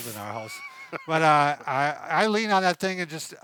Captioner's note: laughing